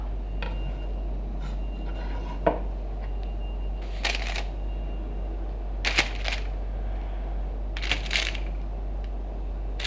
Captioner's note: beeping sound coming from the nearby warehouse